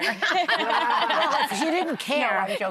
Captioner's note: laughing